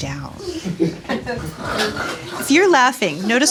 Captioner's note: laughter